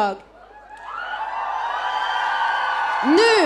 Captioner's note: audience cheering